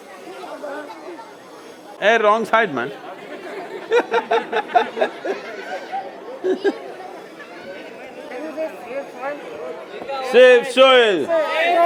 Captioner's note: laughs